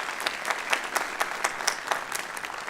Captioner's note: applause